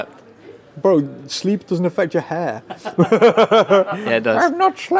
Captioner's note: laughing